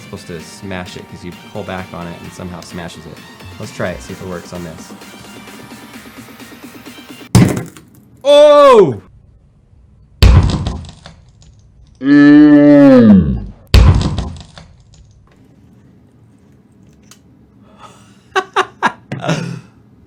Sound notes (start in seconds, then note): 7.3 glass breaks; 10.2 glass breaks; 13.9 glass breaks; 18.1 laughs